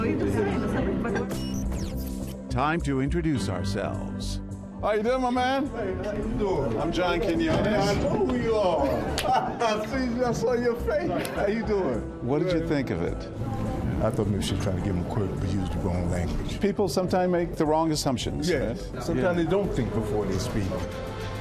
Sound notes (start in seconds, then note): 8.8 laughs